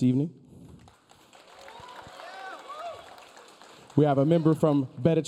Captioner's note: audience cheering